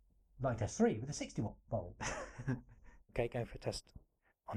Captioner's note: laughing